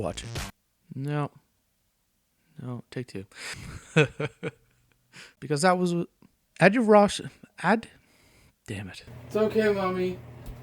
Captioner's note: laughter